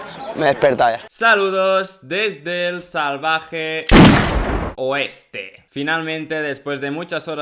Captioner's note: bang